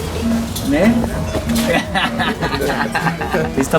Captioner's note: all laughing